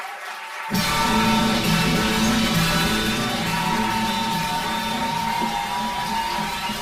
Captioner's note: crowd cheering; upbeat music